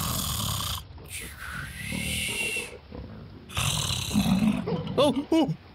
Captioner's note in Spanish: Sonido de jabalí